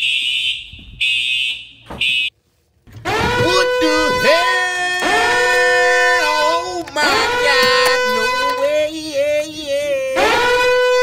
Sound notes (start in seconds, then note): 0.9 goofy ahh siren; 10.0 goofy ahh siren still going